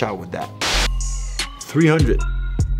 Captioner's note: upbeat music; static crackles